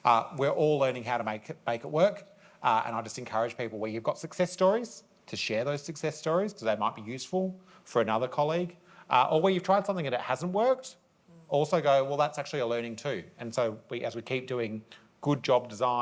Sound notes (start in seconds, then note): none